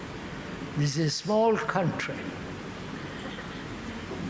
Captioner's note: noise of aeroplane